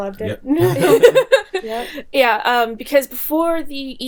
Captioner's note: laughing